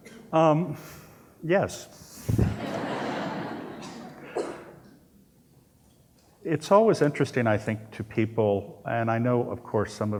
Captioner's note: laughter